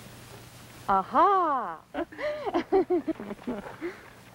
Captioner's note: laughter